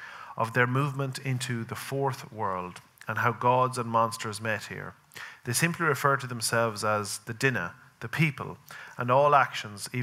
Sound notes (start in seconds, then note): none